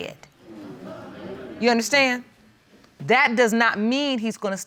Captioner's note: audience chuckles